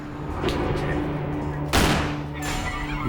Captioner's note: gun firing